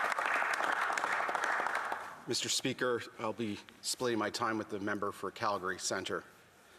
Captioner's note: some Applause